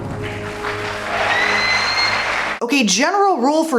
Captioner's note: applause and cheering